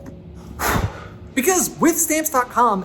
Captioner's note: blows out candle